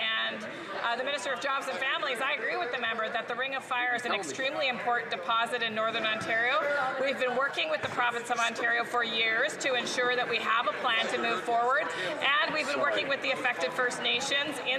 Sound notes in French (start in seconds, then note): 4.9 voix de l'interprète